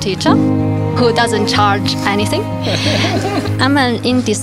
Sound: laughs

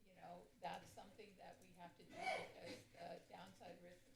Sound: sneeze

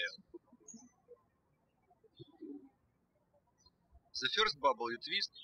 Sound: birds chirping

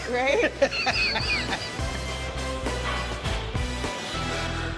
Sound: laughs

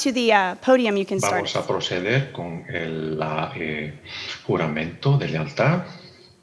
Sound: man speaking in Spanish

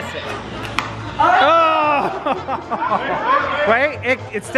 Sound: crowd groans

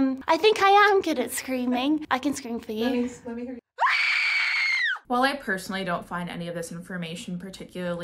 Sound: screams

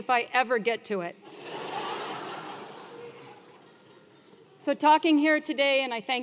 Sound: laugh

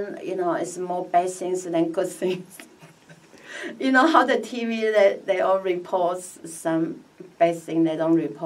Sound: laughs

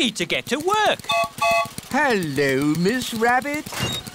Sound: gertrude's whistle blows

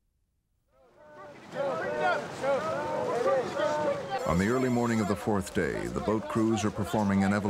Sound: chanting

